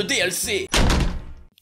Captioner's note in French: Bruit de porte qui se ferme